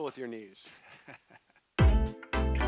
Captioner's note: laughs; uplifting music